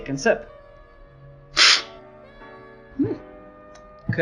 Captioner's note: slurping